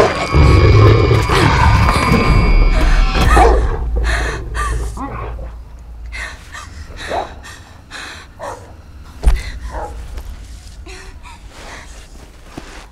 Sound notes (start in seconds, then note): 2.8 gasping; 3.3 muffled barking